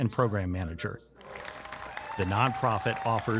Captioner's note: clapping and cheering